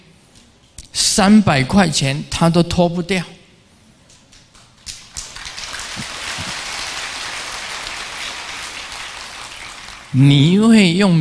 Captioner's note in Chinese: 眾鼓掌